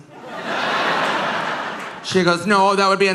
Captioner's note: audience laughing